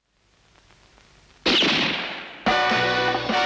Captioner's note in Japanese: 拳銃の音